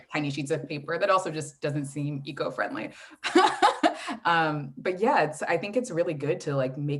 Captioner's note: laughs